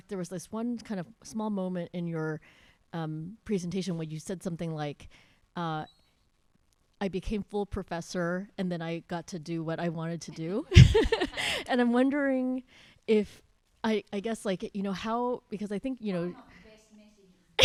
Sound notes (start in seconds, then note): 10.7 laughs